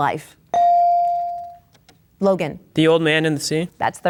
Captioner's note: bell dings